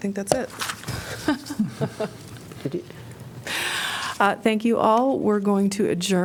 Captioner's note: laughter